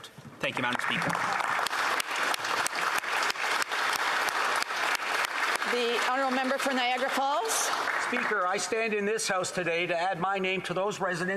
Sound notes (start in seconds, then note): 4.6 applause